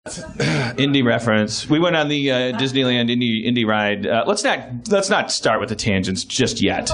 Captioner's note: cough